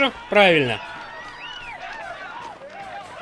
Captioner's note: crowd yelling